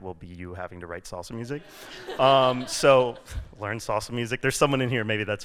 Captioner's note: laughter